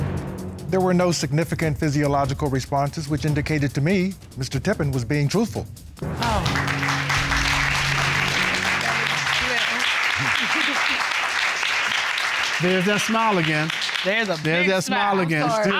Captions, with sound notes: There were no significant physiological responses, which indicated to me Mr. Tippins was being truthful. (APPLAUSE) Thank you, baby. (APPLAUSE) There's that smile again. There's a big smile.